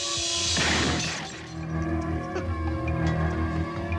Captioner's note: glass shattering; gunshots